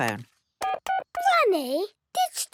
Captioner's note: dial tones beeping